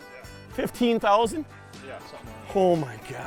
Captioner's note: voiceover